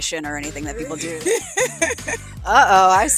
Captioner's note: woman laughs